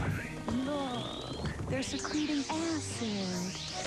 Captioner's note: affectionately